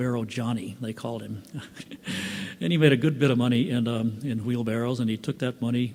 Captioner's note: laughs